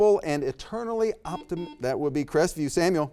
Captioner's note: buzzer beeps